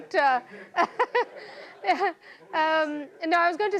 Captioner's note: laughing